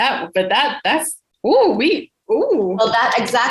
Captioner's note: exclaims